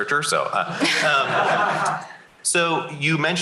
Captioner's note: laughter